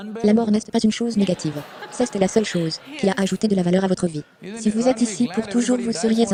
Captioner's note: audience laughs